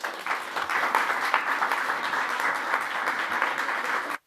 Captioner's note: applause